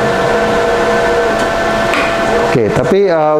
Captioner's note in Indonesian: suara platen dikeluarkan